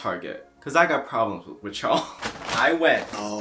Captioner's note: chuckles